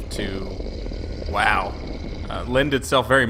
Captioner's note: growling